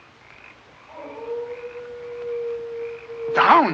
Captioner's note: howling